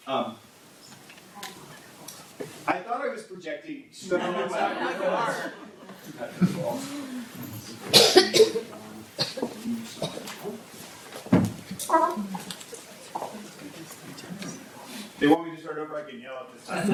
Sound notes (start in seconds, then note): 6.0 audience laugh